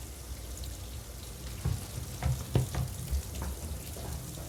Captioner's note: water running